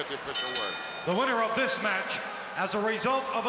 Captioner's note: bell rings